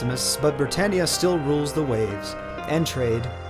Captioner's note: continues reading text aloud